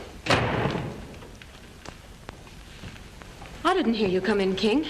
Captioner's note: door closes